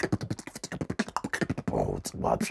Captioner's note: beatboxing